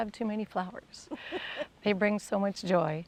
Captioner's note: laughs